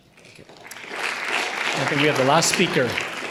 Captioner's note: audience applauding